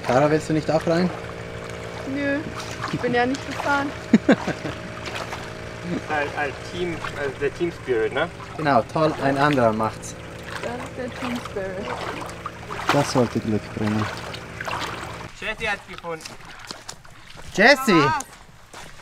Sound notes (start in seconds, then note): 3.8 laughs